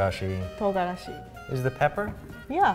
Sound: speaks in foreign language

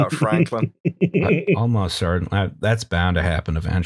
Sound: laughter

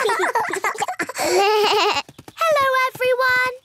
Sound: laughter; bleating

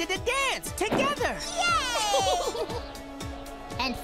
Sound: giggling

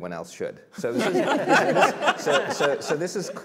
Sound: laughter

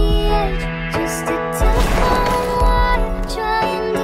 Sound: gunshot

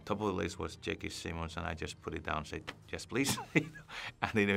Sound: laughs

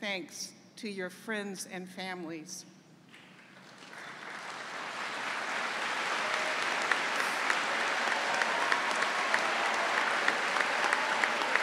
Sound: cheering and applause

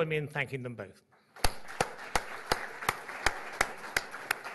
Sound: applause

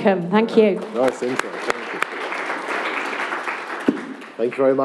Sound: applause

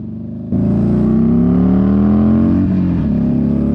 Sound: engine roaring

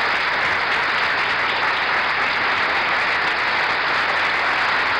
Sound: applause continues

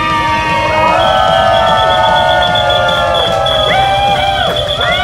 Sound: clapping hands

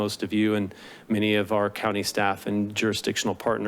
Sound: inhales

